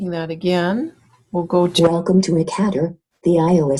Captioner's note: voiceover